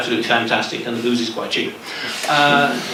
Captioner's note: laughter